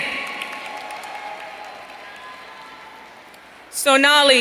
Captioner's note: audience cheering